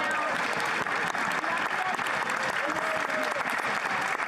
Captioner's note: chatter